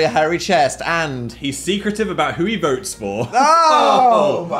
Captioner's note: laughs